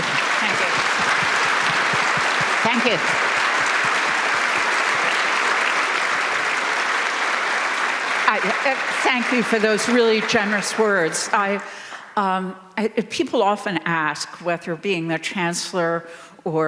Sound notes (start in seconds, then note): 0.9 audience applauding; 4.2 applause continues